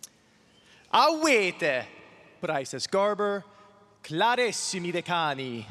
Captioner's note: speaks in foreign language